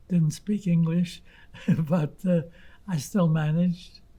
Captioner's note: laughing